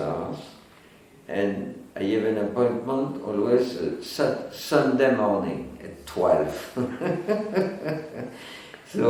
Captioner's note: chuckles